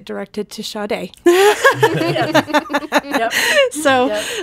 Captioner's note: laughing